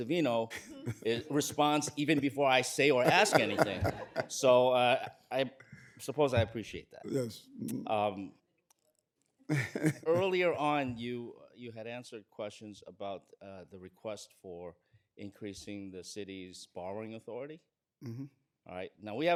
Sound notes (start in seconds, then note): 9.5 laughter